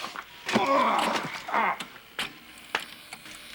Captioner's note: grunts